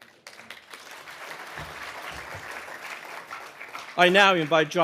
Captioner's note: audience applauding